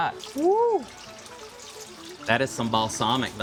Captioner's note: liquid splashing